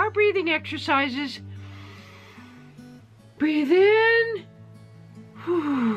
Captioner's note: inhales loudly; exhales